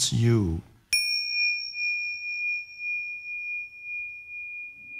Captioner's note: bell chiming